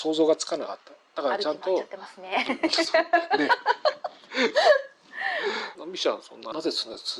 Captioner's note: laughs